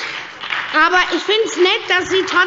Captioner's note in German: Beifall bei der SPD